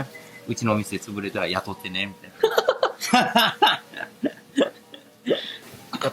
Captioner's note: laugh